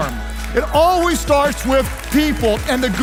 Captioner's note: audience clapping